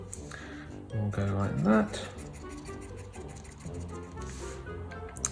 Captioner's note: pencil scribbling